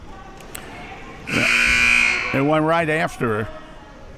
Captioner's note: buzzer blaring